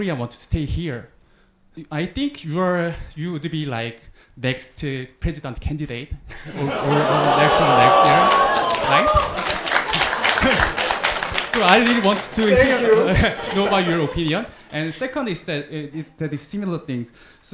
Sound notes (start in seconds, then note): 9.7 audience applauding